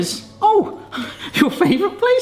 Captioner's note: both chuckle